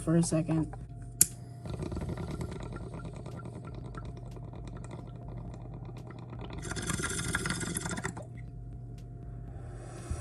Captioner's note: funny leaf bubbler noise